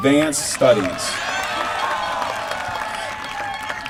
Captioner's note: applause